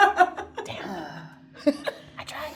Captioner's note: laughing